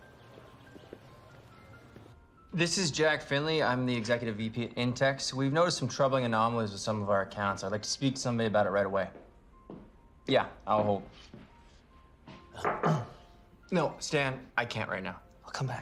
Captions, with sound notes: (birds chirping) This is Jack Finley, I'm the executive VP at INTEX. We've noticed some troubling anomalies with some e of our accounts, I'd like to speak to somebody about it rightht away. (footsteps approaching) Yeah, I'll hold. (knonocking) No, Stan, I can't right now. - I'll come back.